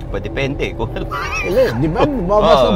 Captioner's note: laughs